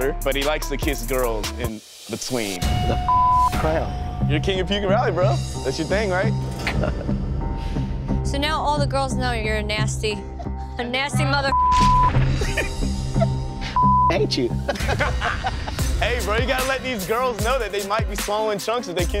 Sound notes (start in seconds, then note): 2.6 beep; 11.4 beep; 12.0 laughter; 13.7 beep; 14.6 laughter